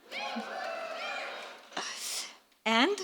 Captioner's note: crowd noise